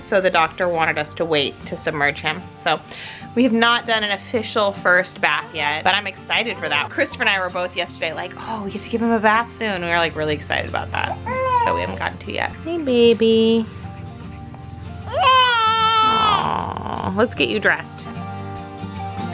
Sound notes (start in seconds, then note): 15.0 crying; 19.1 gentle music